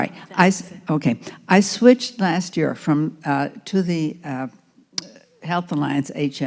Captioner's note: voiceover